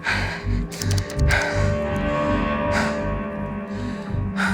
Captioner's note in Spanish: Sonido al marcar